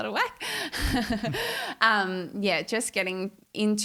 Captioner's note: giggling